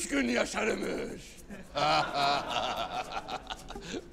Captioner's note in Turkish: Gülme sesleri